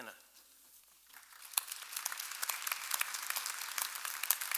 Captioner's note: clapping